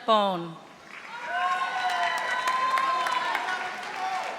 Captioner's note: audience applauding